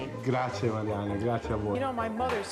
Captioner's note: speaking Italian